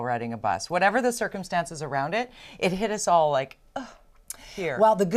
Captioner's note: sigh